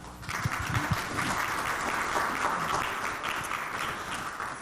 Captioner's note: audience clapping